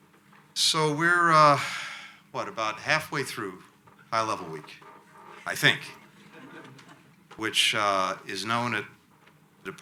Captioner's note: laughter